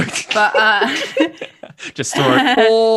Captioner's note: laughter